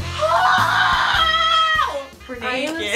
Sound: screaming

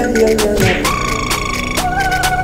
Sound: prrrrrr

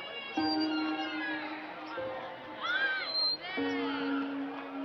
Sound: swings creaking

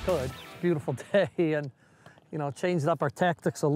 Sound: laughs

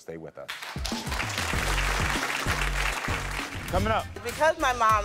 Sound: audience clapping

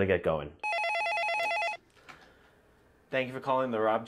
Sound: phone ringing

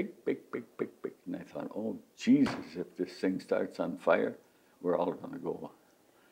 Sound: pounds fist on table

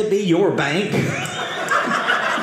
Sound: audience laughing

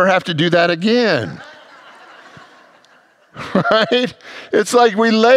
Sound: congregants laugh

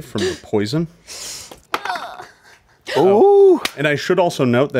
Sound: dice clatter

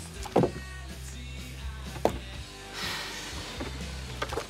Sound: exhales Sharply

